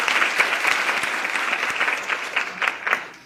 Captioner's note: applause